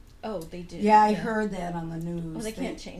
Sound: voiceover

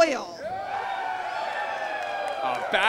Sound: cheering

